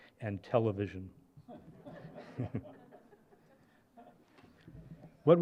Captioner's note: laughter